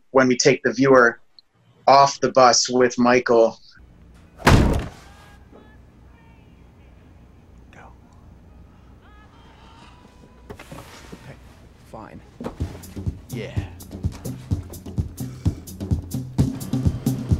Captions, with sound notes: when we take the viewer off the bus with Michael. (slams) - Now. - Fine. - Yeah. (suspenseful music)